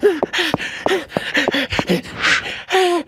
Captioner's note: Usopp breathes hard while running; footsteps pound; Usopp pants while running